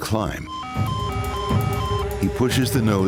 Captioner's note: alarm beeping